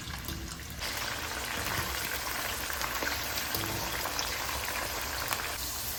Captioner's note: frying asmr